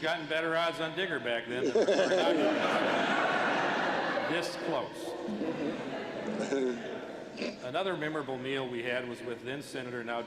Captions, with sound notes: BETTER ODDS ON DIGGER BACK THEN. [LAUGHTER] THIS CLOSE. ANOTHER MEMORABLE MEAL WE HAD WAS WITH THEN SENATOR, NOW